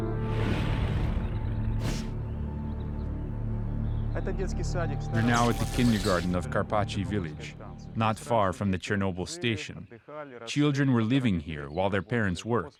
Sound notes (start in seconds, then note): 0.0 gloomy music; 3.5 non-english speech